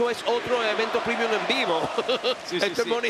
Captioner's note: laugh